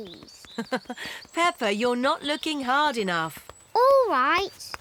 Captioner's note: laughs